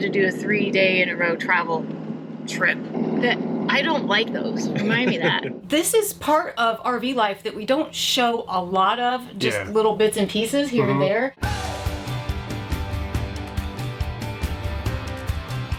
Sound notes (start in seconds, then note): 4.7 laughs; 11.4 lively music